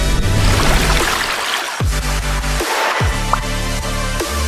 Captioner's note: water gushing